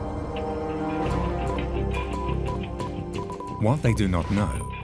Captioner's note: telegraph beeps